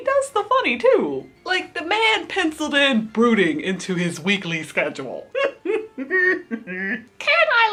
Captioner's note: laughs